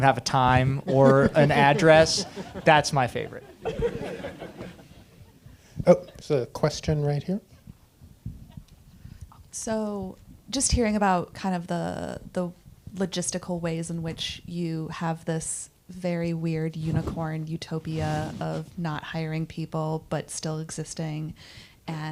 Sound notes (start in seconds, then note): 3.7 audience laughing